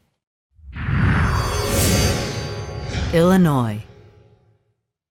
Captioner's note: sound effect